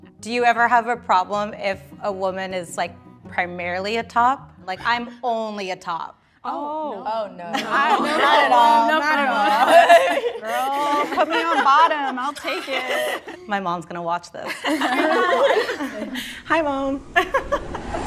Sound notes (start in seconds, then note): 7.5 group laughter; 14.4 everyone laughs; 17.3 laughs